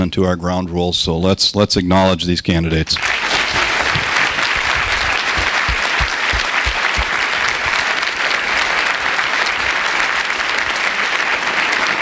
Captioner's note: applause